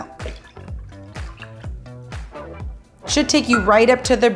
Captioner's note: coconut milk splashing